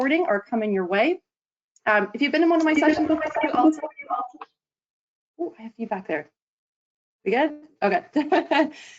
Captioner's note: feedback